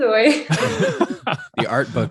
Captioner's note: all laughing